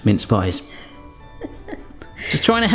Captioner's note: chuckling